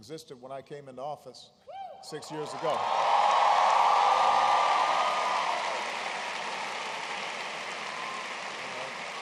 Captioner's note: applause